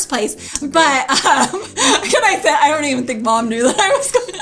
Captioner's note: laughing